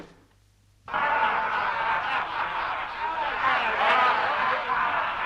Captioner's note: chieftains laughing